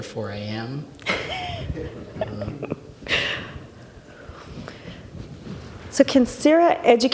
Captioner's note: laughing